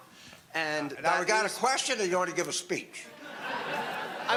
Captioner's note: audience laughter